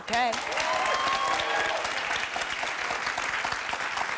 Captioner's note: applause